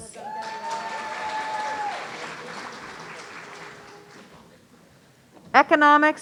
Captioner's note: audience cheering